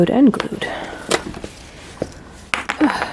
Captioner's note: riiiip